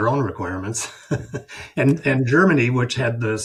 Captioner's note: chuckles